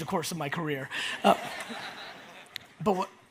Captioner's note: audience laughs